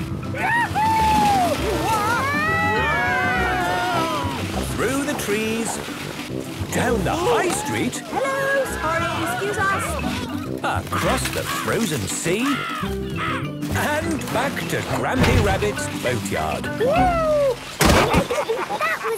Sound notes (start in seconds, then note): 2.0 all screaming excitedly; 12.3 birds cawing; 17.7 bangs